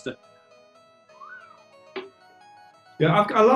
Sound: sniggering

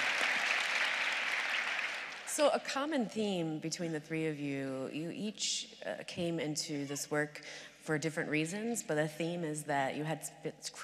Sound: applause

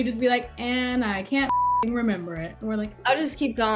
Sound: beep

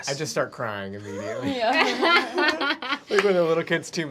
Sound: laughing

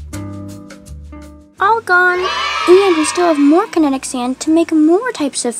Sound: Scarlett cheers

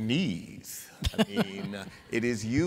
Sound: laughter

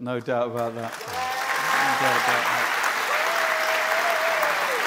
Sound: applause

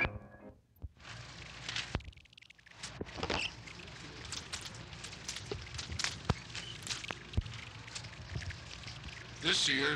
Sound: film tape whirring

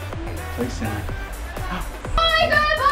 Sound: gasp

